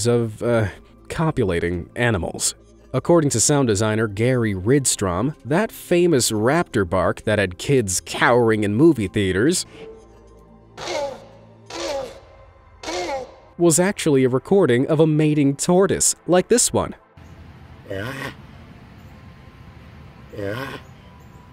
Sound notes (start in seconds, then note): 11.7 high pitched barking; 18.0 low grumbling